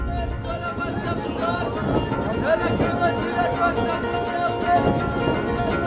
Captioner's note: up tempo guitar music; shouting in foreign language